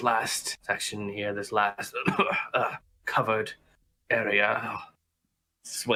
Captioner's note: coughing